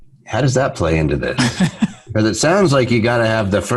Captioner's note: laughs